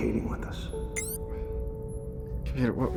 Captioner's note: computer beeps